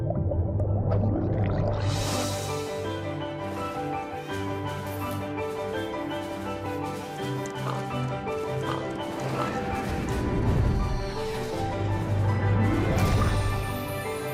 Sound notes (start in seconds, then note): 0.1 upbeat music continues; 7.1 animal grunts; 10.6 upbeat music continues